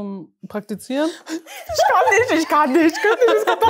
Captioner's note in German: Gelächter